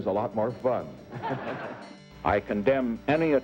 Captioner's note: laughing